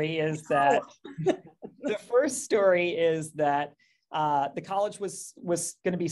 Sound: laughs

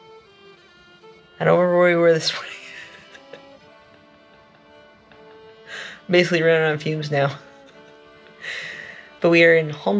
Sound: laughing

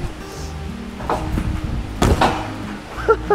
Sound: feet thuds; trampoline clacks; laughs

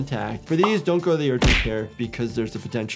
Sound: graphic pops; graphic thuds

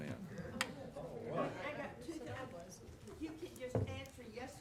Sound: people chattering

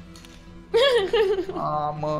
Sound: laughs

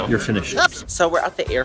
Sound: voiceover

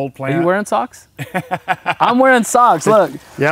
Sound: laugh

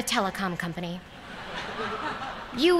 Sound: laughter

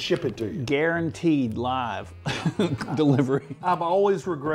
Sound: laughs

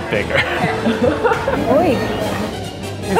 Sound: laughs

